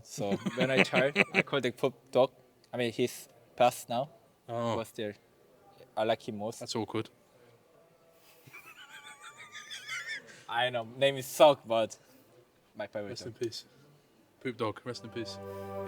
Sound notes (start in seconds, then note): 8.7 laughs